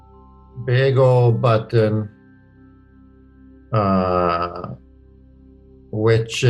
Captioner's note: laughs